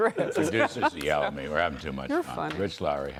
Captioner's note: laughter